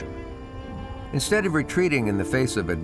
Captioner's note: gusts of wind